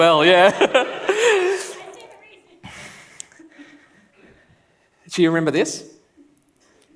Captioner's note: laughs